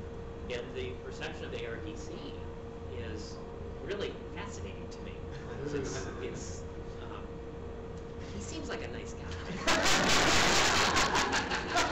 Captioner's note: laughter